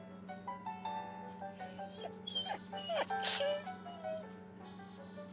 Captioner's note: whines